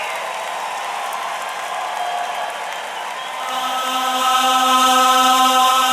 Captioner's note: applause